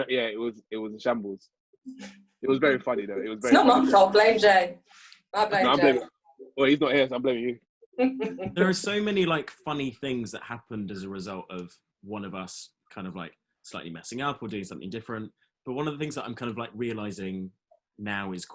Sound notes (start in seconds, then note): 8.0 laughs